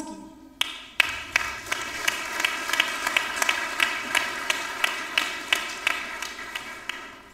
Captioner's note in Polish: oklaski